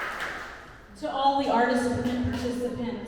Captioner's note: applause